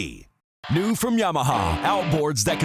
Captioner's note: voiceover